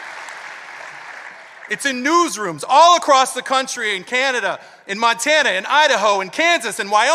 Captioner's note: applause